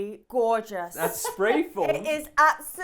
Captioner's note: laughs